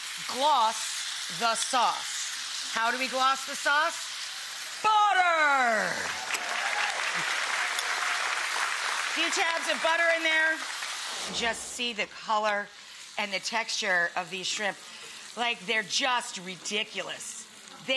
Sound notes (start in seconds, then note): 6.0 audience applause